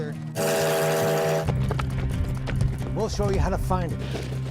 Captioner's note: train horn blows